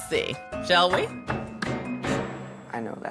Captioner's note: knocking